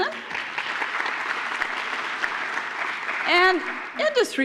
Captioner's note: applause